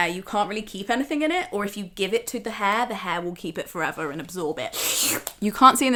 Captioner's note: slurp